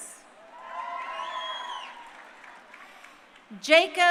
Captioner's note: crowd cheering